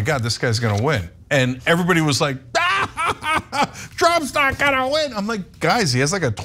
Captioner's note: laugh